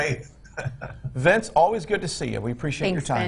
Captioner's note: chuckles